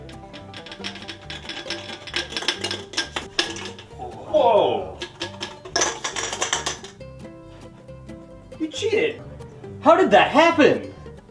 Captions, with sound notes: [rattle of ice] Whoah! [ice rattling in cans] You cheated! How did that happen?